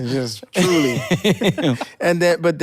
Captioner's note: laughs